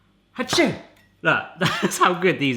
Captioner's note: sneezes